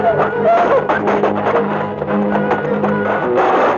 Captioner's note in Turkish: Kavga ortam gürültüsü